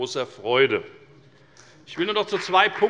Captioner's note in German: Beifall bei der FDP